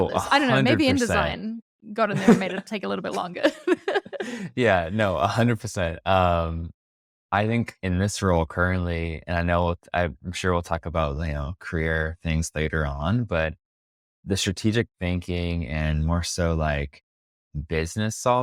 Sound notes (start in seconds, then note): 2.1 laughs